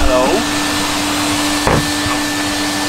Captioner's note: vacuum sound